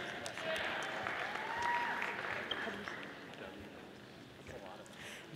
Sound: audience applauding

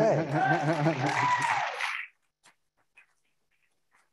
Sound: audience cheering

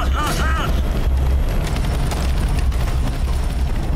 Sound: helicopter blades whirring

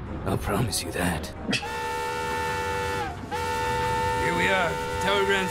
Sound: train whistle; scoffs

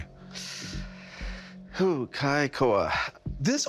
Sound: sighs

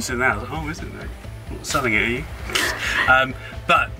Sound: laughing

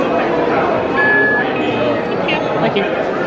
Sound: electronic beep

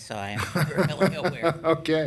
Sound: laughing

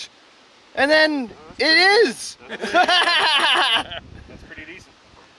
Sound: laughs

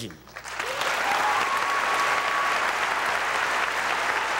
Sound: audience applauding

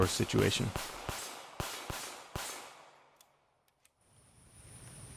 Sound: gunshots booming

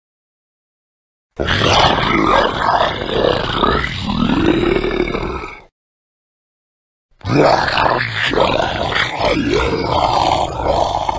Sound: sound of monster

